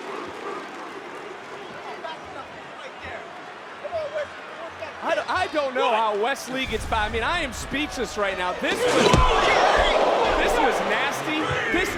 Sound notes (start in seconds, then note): 2.8 audience cheering